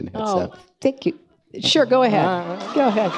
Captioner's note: woman speaking in background